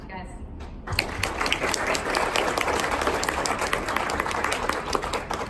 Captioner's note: applause